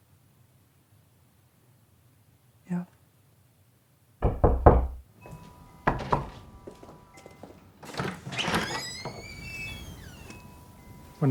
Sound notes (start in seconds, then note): 4.2 knock on door; 8.1 door creaking